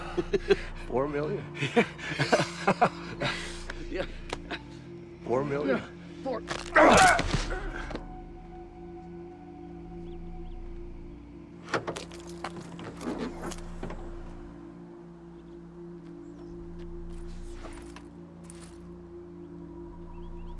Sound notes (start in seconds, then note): 1.4 laughs; 6.5 crack